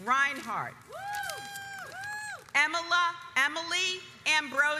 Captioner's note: audience cheers